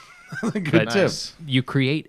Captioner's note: laughter